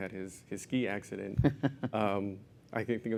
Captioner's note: laugh